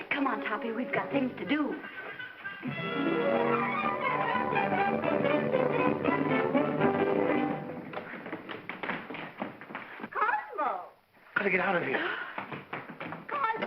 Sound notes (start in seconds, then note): 2.7 whimsical music; 7.7 feet scrambling